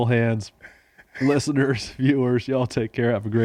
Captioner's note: laughing